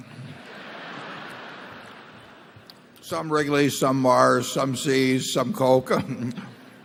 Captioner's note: laughter